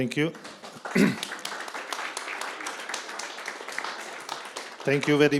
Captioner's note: crowd applauding